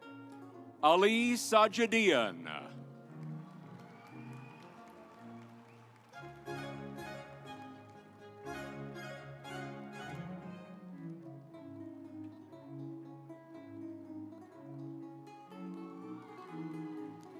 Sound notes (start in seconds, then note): 4.4 audience applauds; 7.9 stately music